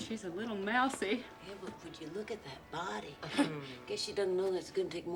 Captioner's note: chuckles